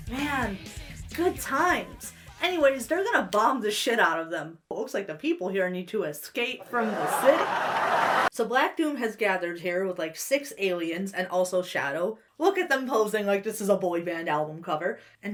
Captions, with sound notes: - Man, good times! (ska music) Anyways, they're gonna bomb the shit out of them. It looks like the people here need to Escape from the City. (audience laughs) So Black Doom has gathered here with, like, six aliens and also Shadow. Look at them posing like this is a boy band album cover.